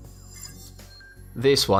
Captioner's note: futuristic ringing